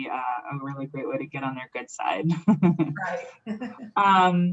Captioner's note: laughs